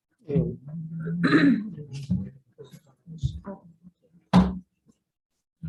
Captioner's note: indistinct conversation